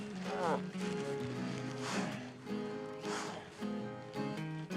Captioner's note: Isaac continues groaning